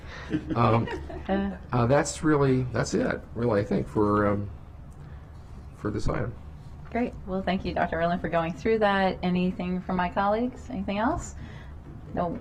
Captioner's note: laughter